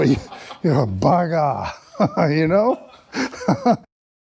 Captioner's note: laughter